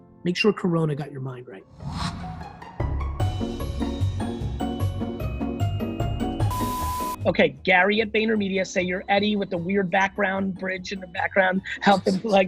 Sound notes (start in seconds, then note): 1.7 air whooshing; 2.7 whimsical music; 6.4 beeping; 11.7 laughs